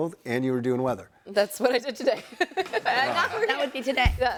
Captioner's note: laughing